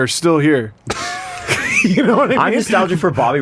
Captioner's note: laughter